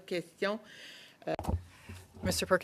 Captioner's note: speaking French